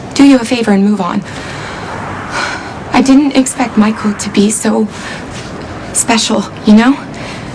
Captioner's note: sighs